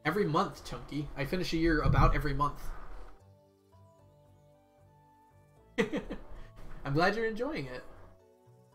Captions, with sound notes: Chunky, I finish a year about every month. (laughs) I'm glad you're enjoying it.